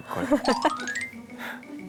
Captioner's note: laughing out loud